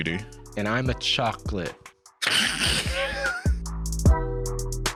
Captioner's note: snickers